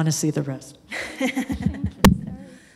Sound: laughs

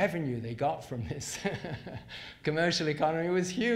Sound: laughs

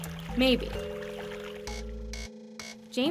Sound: water gurgling

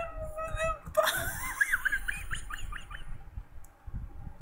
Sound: precious pup laugh

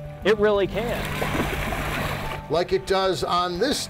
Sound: splashing

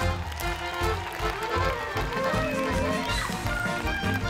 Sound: crowd cheers

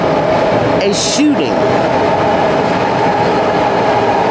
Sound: train passing

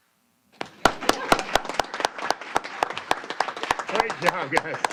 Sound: applause

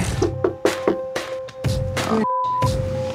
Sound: knocking

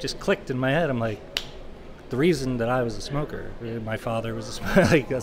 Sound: finger snap

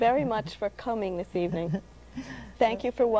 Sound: chuckles

